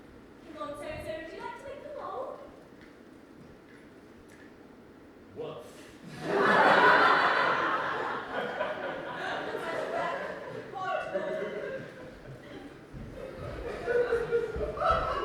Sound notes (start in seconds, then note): 6.2 audience laughs